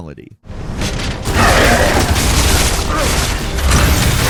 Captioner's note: gun firing